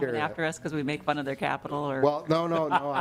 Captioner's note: laughing